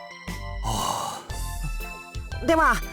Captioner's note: sigh